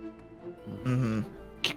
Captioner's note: hums in agreement